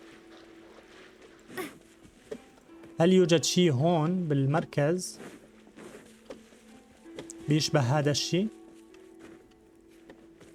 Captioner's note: gentle music; grunting